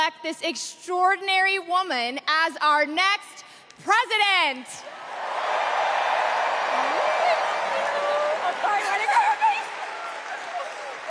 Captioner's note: cheers and applause